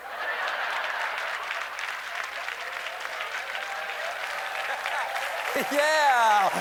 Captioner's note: laughter; applause